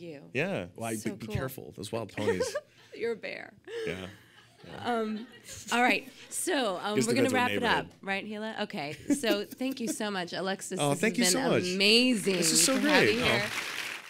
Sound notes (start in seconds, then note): 3.8 audience laughing